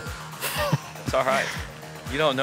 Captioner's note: l lauaughghs s